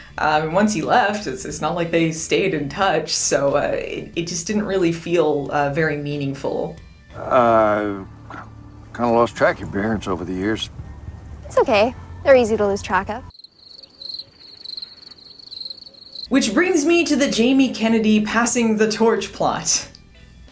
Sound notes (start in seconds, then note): 13.4 cricket sounds